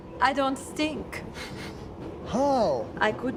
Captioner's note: inhales